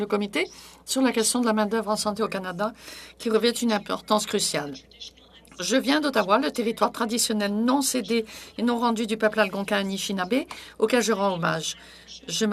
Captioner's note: speaking French